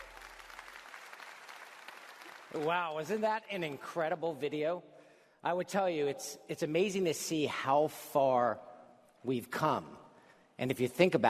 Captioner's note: applause